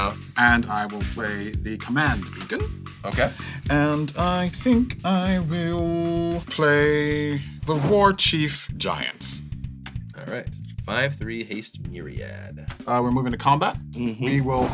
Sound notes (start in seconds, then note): 4.6 sing-song voice